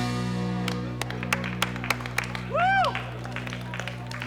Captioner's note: clapping